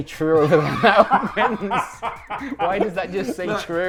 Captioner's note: both laughing